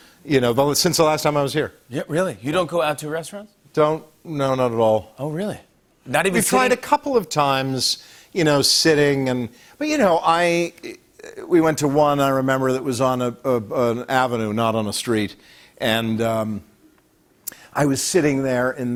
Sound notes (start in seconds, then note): none